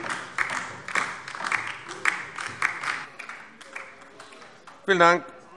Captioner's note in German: Beifall DIE LINKE